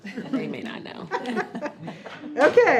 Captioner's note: laughing